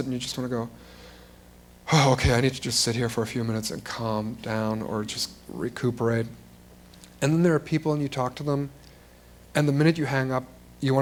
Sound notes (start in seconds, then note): none